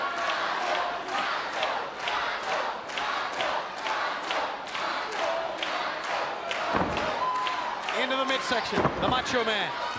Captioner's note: applause